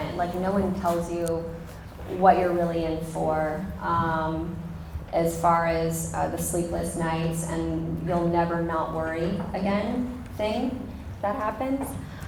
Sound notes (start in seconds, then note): none